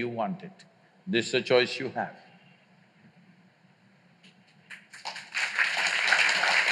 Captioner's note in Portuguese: Aplausos